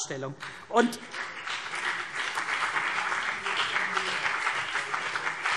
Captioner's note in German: Beifall CDU und BÜNDNIS 90/DIE GRÜNEN